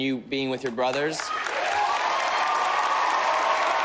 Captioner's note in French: applause